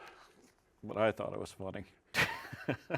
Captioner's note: laughs